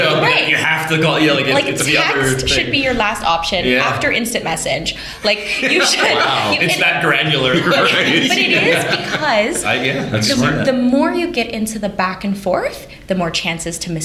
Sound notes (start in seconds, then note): 8.2 laughter